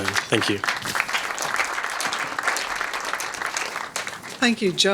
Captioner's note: audience applauding